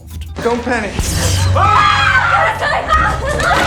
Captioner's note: screams